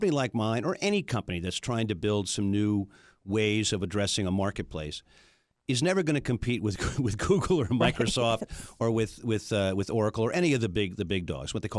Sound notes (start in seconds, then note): 7.8 laughs